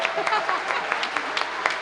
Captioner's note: applause